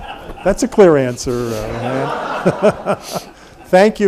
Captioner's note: everyone laughs